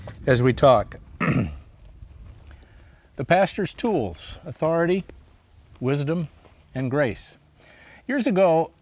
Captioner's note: clears throat